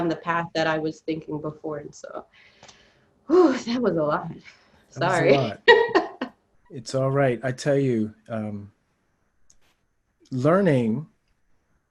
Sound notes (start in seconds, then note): 2.5 gasping; 5.0 laughs